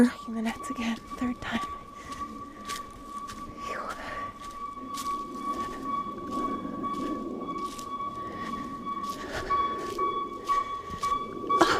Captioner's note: hoot hoot hoot